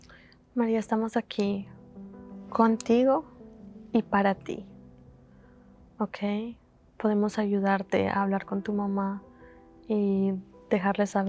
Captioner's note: Spanish